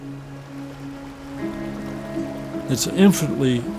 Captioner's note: gentle music; water trickling